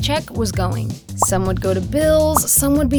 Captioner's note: text popping